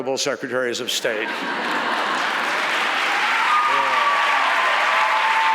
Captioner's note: audience laughs and cheers